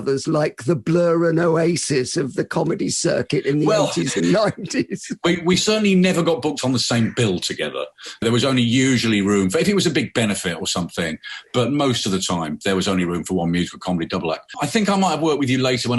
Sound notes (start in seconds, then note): 5.1 both laughing